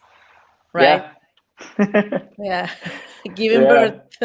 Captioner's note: laughing